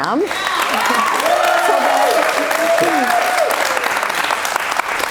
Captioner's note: cheers and applause